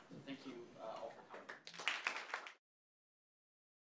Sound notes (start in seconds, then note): 1.4 audience applause